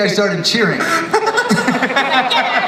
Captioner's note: Grant laughs